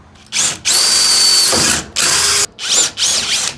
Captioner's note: drilling noises